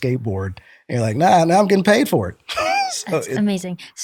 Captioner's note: laughter